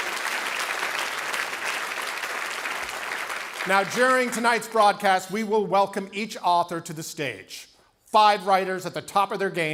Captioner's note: cheering and Applause